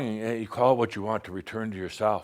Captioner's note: none